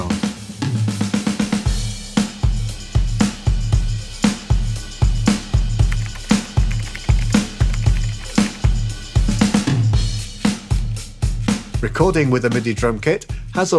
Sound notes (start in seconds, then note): 5.8 computer keys clacking